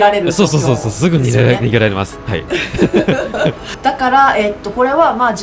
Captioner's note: laughs